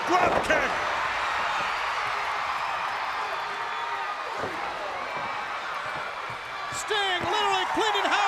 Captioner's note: crowd cheering